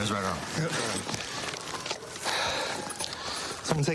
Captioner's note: sirens in distance